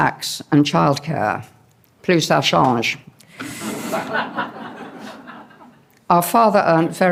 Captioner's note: non-english